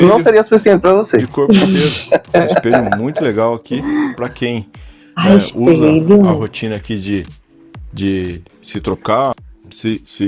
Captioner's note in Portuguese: risadas